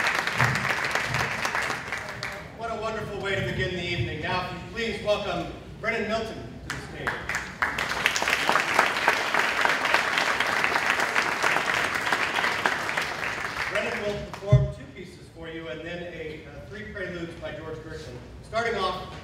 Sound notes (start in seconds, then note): 7.0 applause